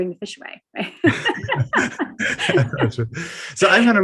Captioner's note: laughing